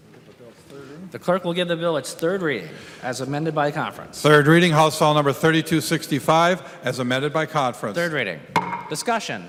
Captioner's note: gavel